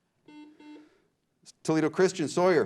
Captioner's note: beep